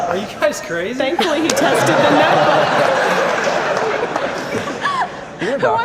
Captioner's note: audience laughter